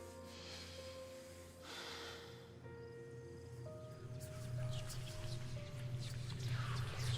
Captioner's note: ominous whispers; sighs